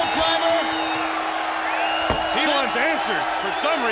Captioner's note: bell ringing; crowd cheering